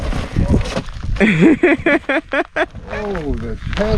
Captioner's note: feet rustling; laughing